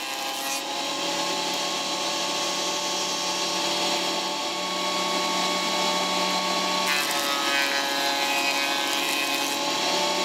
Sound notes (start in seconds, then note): 2.2 grinding noises